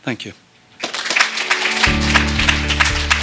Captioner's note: applause